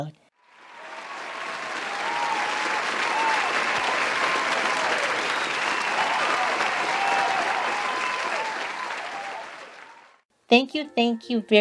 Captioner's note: cheering and applauding